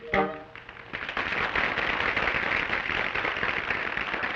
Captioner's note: patrons applaud